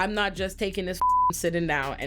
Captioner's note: beep